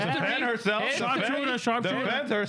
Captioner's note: speaking In Foreign Language